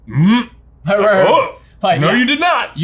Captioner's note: huffs